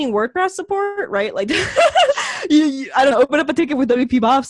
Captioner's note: laughs